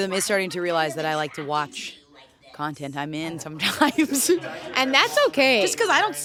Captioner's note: laughs